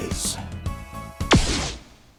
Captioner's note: pew